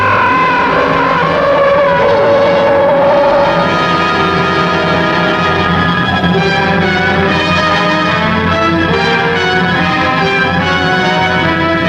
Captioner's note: tense music; gun humming